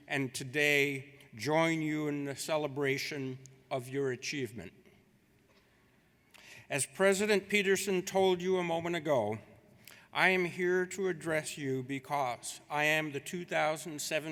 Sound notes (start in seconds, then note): none